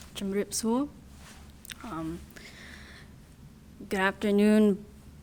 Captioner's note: speaking in a foreign language